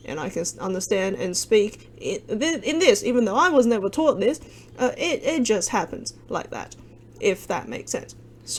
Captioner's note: Cantonese